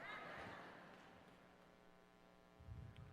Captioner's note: laughter